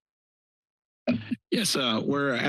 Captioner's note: microphone noise